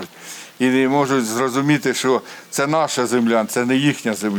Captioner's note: Ukrainian; russian